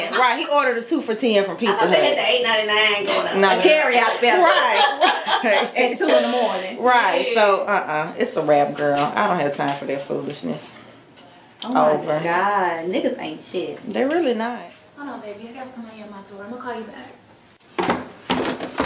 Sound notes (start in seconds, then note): 3.9 women laughing